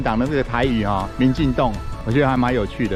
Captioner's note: in Taiwanese